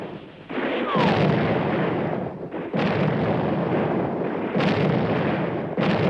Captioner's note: explosions